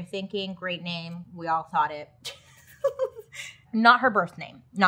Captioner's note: giggling